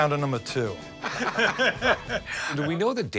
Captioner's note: laughter